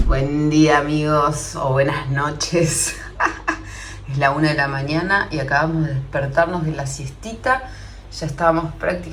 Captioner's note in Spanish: risas